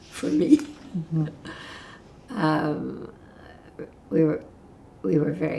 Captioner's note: laughing